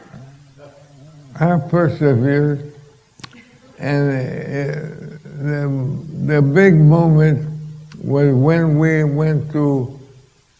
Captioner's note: laughter